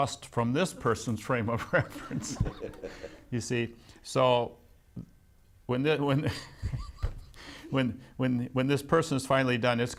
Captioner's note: laughs